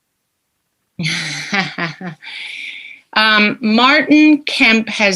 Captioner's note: laughs